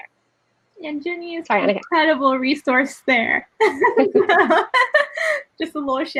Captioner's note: laughs